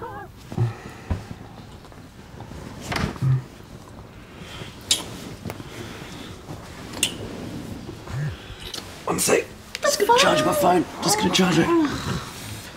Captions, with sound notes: [phone vibrates] -One sec. - What the fuck. - I just got to charge my phone. I just got to charge it.